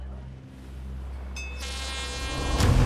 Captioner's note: air horn